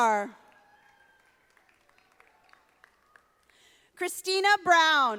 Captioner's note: audience applauding